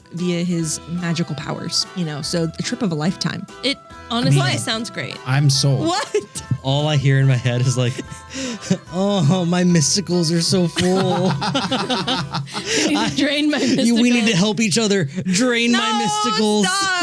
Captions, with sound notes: via his magical powers. So a trip of a lifetime. It honestly sounds great. I'm sold. All I hear in my head is like, oh, my mysticals are so full. (laughing) You need to drain my mysticals. We need to help each other drain my mysticals. No, stop.